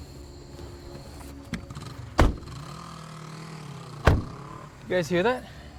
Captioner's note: motorcycle in distance